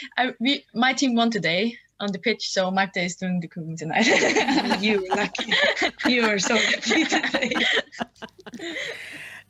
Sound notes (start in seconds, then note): 4.2 laughs